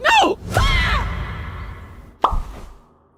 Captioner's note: Basketball screaming